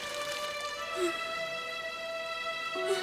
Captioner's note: sobs